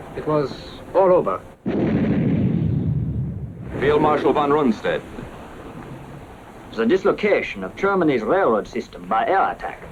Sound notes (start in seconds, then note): 1.6 explosion; 6.6 German-accented voice